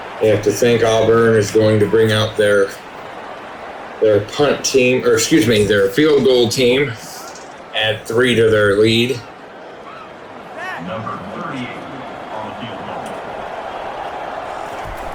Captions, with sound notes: You have to think Auburn is going to bring out their their punt team or excuse me their field goal team at three to their lead. [Crowd Noises]